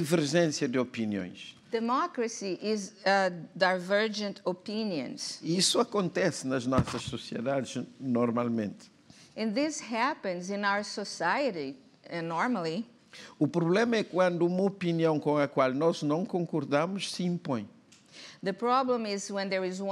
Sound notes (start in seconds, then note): 6.3 speaking portuguese; 14.5 speaking portuguese